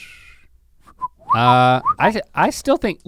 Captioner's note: whistles